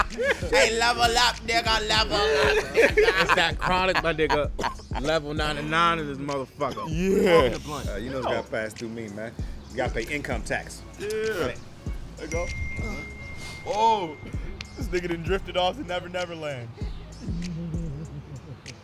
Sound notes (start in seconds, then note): 12.3 phone chimes